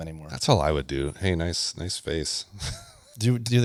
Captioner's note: laughs